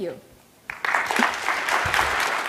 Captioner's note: applause